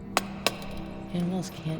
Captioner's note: torch taps